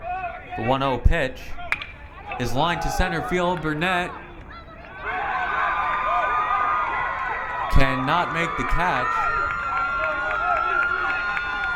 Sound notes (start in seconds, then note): 8.5 crowd cheering